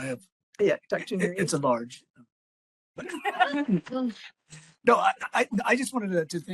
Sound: laughing

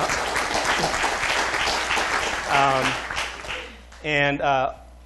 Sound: applause

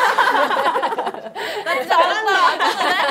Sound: laughing

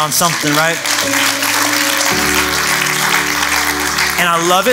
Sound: applause

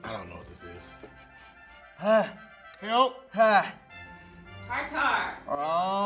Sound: sniffing

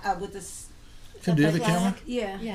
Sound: voiceover

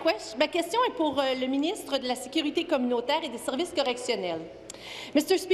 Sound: speaking in French

